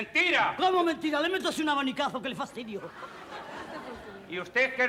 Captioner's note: laughs